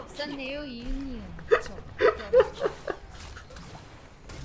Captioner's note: Laughing too hard to have difficulty in breathing